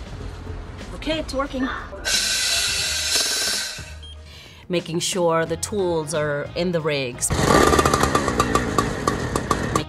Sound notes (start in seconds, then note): 2.1 air whooshing; 7.3 saw revs